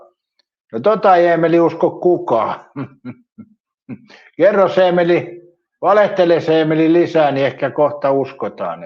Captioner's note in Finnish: naurua